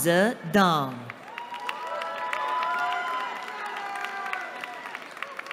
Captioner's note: cheering